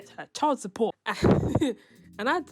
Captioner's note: laughs